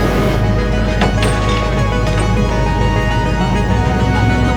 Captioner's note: chains clanging